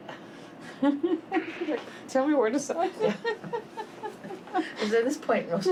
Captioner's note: laughs